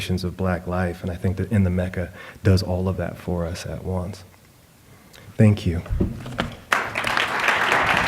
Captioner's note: applause